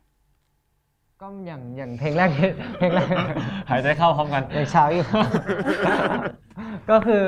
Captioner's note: laugh